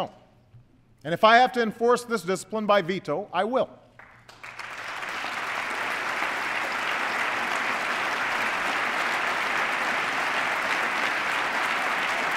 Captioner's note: applause